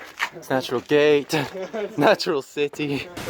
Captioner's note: laughs